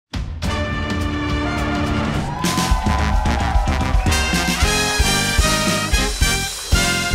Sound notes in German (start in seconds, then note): 0.2 Dynamische Musik; 0.9 Jubel, Applaus